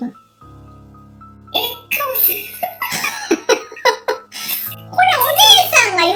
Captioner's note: laughs